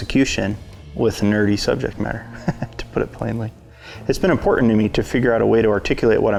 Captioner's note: chuckles